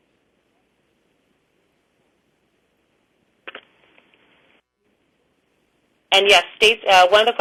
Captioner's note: pause